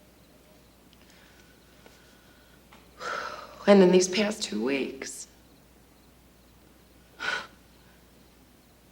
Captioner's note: sighs